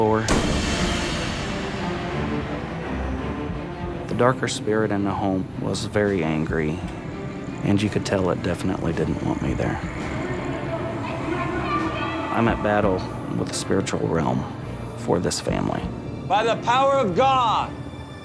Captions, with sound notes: (door slams) (dramatic music) The darker spirit in the home was very angry and you could tell it definitely didn't want me there. (eerie voices) I'm at battle with the spiritual realm for this family. - By the power of God,